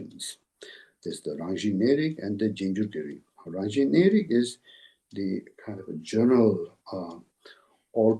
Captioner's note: tibetan